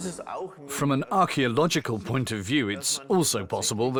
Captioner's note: in German